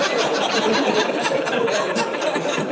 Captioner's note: audience laughing